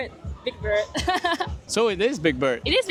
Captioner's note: big bird laughter